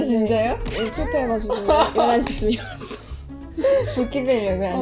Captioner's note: sob sob